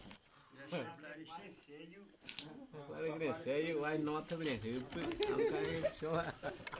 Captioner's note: villagers chattering in Yanomami